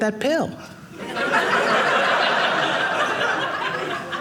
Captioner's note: audience laughing